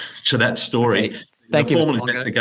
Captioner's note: chuckling